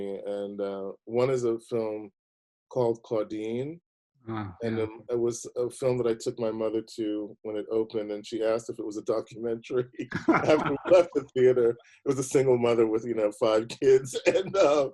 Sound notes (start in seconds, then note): 9.7 chuckles; 13.6 both laughing